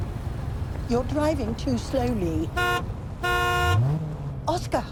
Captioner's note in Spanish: bocina del auto